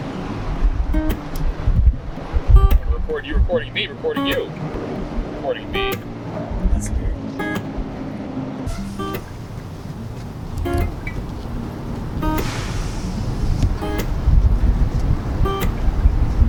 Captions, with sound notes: - Are you recording me recording you? (faintly speaking)